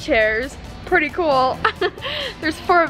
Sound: laughs

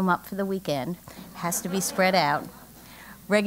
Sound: laugh

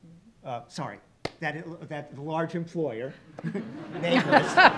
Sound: laughs

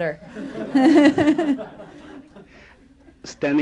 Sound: laughter

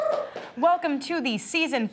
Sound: applause

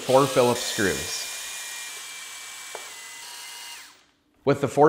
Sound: tool whirring

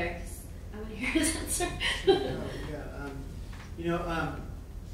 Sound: laughing

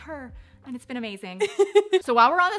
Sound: laughs

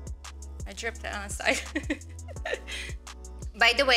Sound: laughs

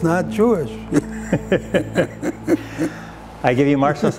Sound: laughs

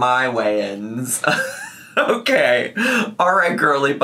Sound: laughs

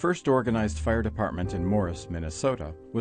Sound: voiceover

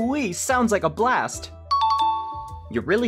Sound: correct ding sound

